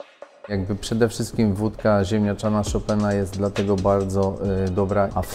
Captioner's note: upbeat music; speaking in Polish